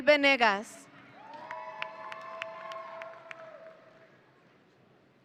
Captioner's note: audience cheering